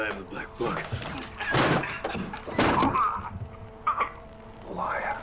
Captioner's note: choking